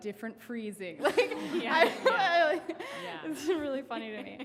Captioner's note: laughing